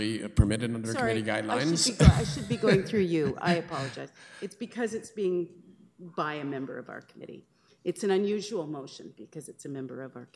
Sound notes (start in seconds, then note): 1.6 laughs